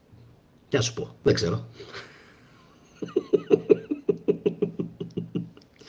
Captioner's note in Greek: γέλια